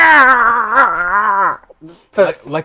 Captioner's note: screaming